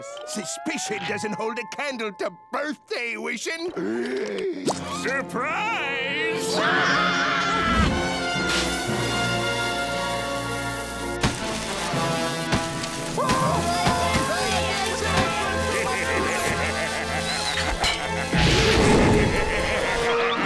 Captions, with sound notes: Suspicion doesn't hold a candle to birthday wishing. Surprise. [screaming] [screaming] [laughing]